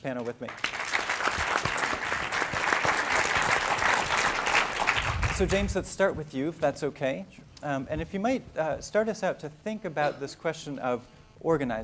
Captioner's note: applause